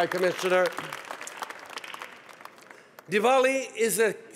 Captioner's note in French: Applaudissements